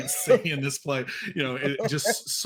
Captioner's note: actors laughing